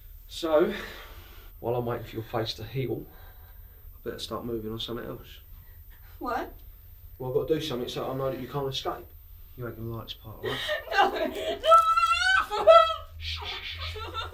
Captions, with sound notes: So, while I'm waiting for your face to heal, I better start movin on somethin else. - What? - Well, I got to do something, so I know that you can't escape. You're ain't gonna like this part, okay? - No! (muffled crying) (shushing)